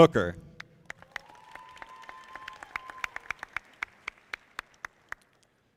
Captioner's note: audience applauding